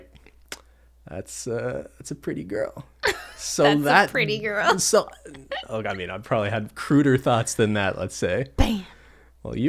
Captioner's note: laughs